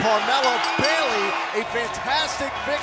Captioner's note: bell ringing